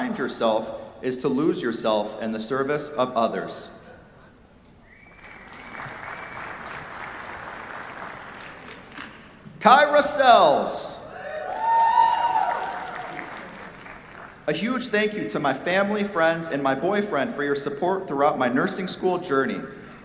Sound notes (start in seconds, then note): 5.1 applause; 11.1 cheers, applause